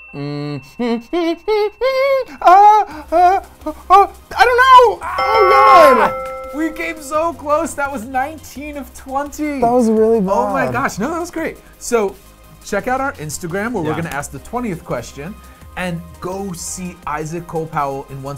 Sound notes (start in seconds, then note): 0.8 voice escalating; 5.0 mildly screams